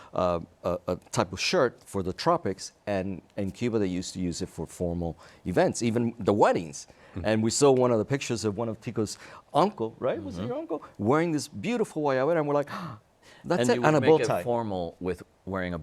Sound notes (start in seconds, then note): 13.3 speaks Spanish